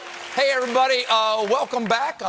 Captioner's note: cheers and applause